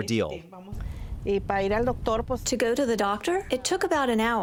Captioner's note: through translator